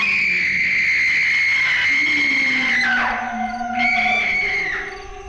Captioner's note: person screaming